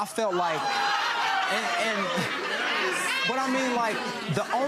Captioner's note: audience chatter